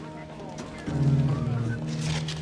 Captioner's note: whistles quietly